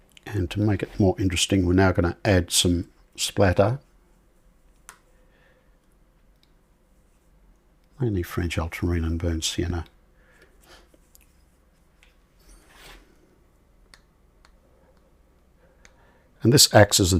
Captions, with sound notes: And to make it more interesting, we're now going to add some splatter. [silence] Only French ultramarine and burnt sienna. [silence] And this acts as